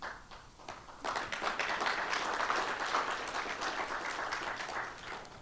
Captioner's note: applause